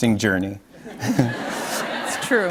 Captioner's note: laughter